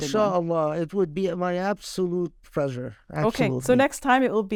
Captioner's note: speaking Arabic